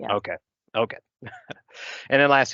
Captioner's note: chuckles